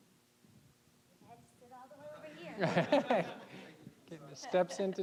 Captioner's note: audience laughing